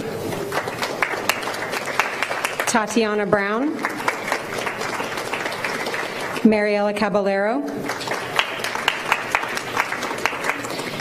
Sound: applause

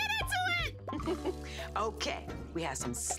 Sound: chuckles

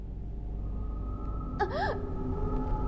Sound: Kathy gasps for air

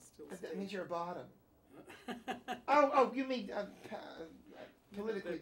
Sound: Kramer laughs

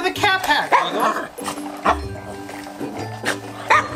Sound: Wiggles barks

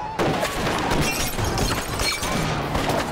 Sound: people screaming; glass shattering; gun firing continues

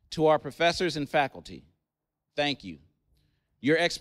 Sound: none

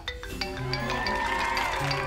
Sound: phone ringing

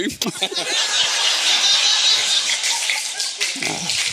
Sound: audience laughing

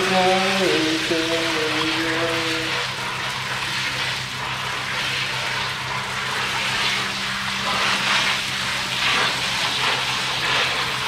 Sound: noise from the water

